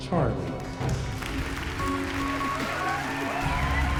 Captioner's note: applause, cheering